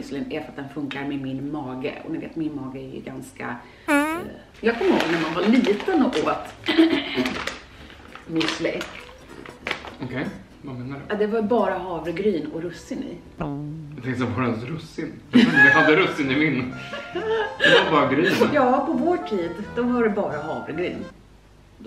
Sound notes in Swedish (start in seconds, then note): 7.5 harklar sig